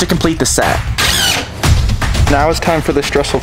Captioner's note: suspenseful upbeat music; drill whirling